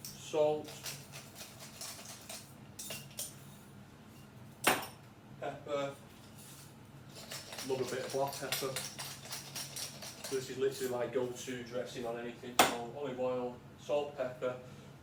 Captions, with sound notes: salt. (salt grinder clicking) Pepper. Love a bit of black pepper. (pepper grinder clicking) This is literally my go-to dressing on anything. So olive oil, salt, pepper.